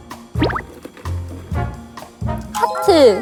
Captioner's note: shuffling